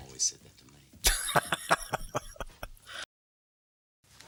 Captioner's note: laughing